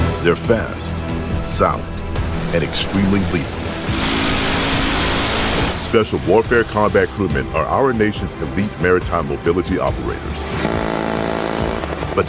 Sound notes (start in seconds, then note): 0.0 exciting music; 4.1 engine roaring; 10.3 engine roaring